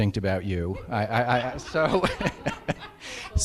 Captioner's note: laughing